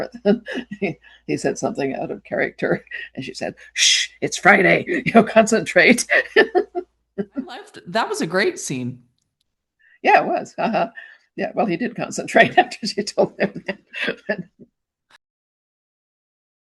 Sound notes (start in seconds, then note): 7.2 laughing; 13.2 chuckling